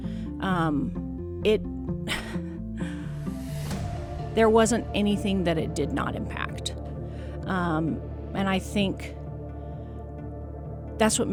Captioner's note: laughs